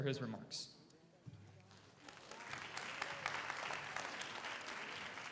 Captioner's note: audience applauds